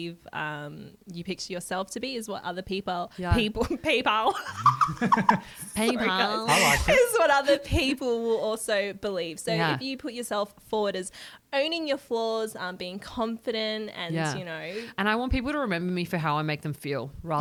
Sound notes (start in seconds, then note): 4.3 laughter